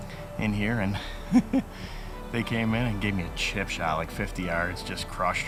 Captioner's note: laughs